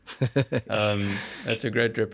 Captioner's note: laugh